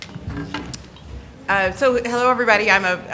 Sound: ambient chatter

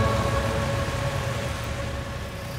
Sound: pathos music continues; traffic sounds

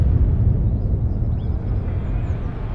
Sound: birds chirping

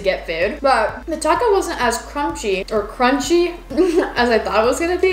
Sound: laughs

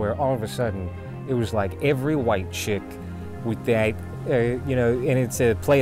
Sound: stutters

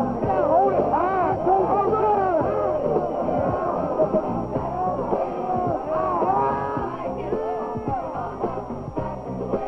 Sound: team celebrating

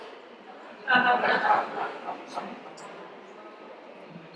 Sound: audience laughs

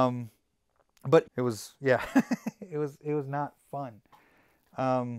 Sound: laughs

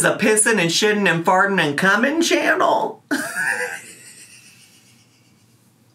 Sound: laughs

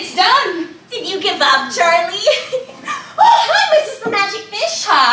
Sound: laughs

